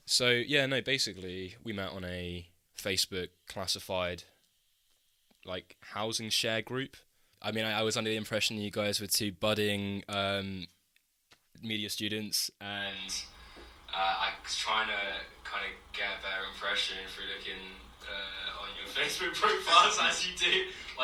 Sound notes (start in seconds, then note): 12.8 with echo, continued; 20.2 laughs